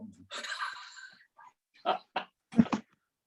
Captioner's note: laughter